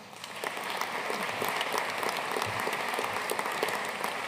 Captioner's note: audience applauding